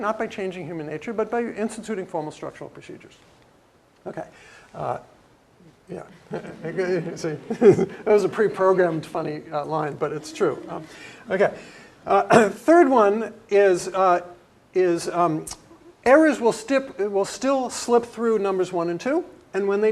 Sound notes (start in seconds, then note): 6.0 laugh; 12.3 cough